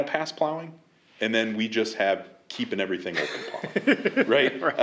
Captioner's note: laughter